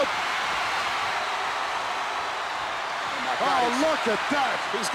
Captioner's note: crowd cheers